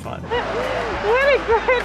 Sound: cars driving

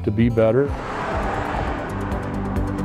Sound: car driving

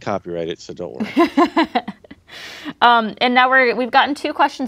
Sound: chuckles

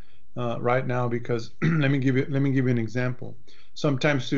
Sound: clears throat

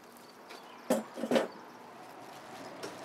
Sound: chair clanking

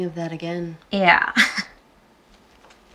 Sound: chuckles nervously

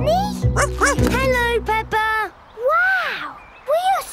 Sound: snorts; barks

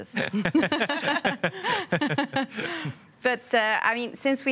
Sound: all laugh

